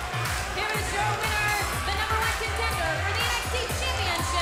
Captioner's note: bell ringing